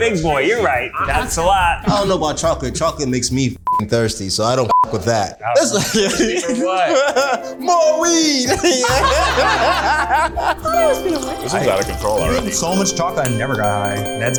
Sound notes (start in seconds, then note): 3.6 beeps; 5.4 laughs; 8.4 all laughing; 10.4 slurping